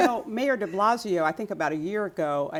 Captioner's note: laughter